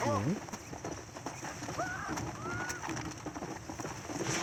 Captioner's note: horse gallops and screams